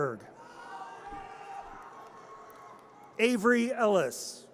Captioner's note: audience cheers